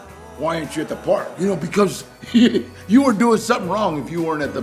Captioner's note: chuckles